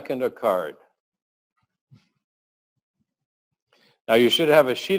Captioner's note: pause